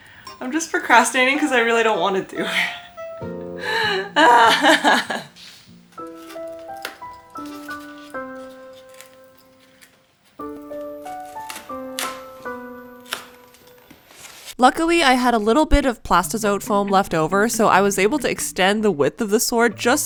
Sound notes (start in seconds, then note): 3.5 pained groans; 5.9 sad music